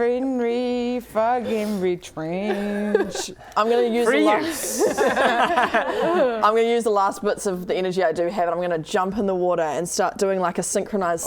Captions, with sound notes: friendly, Fargenri Trench I'm going to use the last - Free use! *laughing* I'm going to use the last bits of the energy I do have I'm going to jump in the water and start doing a synchronised